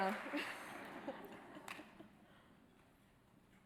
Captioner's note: laughter